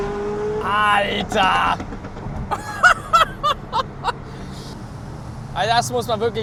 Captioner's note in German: gelächter